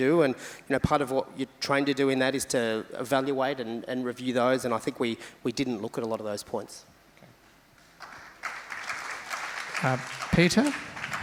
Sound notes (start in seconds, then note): 8.0 crowd applauds